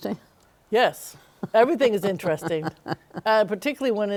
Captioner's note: laughs